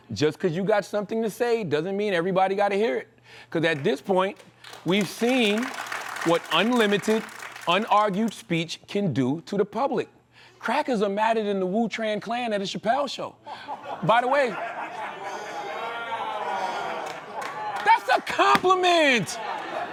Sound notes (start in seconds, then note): 15.1 laughter and groaning